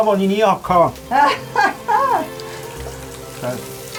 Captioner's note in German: lacht